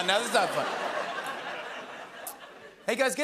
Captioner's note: laughter